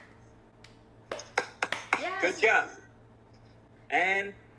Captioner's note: clap clap clap